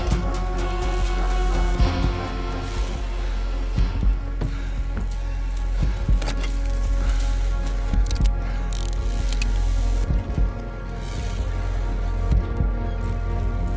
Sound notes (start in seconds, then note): 8.0 gun cocking; 11.0 tense music